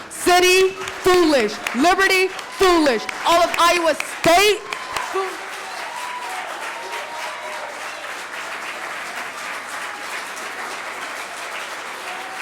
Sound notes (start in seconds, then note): 5.7 audience applauding; 5.7 cheering